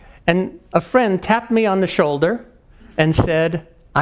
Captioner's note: none